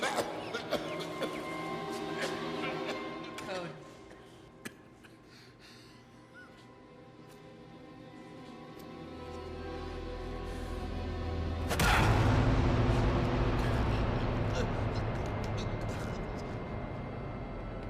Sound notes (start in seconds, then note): 0.0 man coughing; 0.0 tense music; 8.8 tense music continues; 11.9 blow landing; 11.9 tense music continues